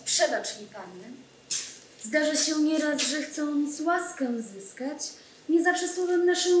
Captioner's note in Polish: Po polsku